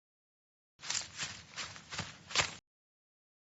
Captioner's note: walking on leaves